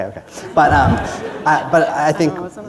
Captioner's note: laughter